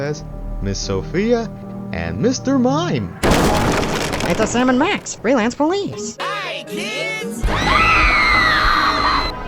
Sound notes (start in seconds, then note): 3.2 crash!; 7.5 kids screaming